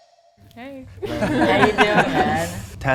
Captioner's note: everyone laughing